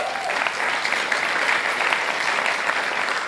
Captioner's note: applause